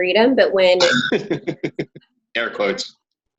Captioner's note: laughing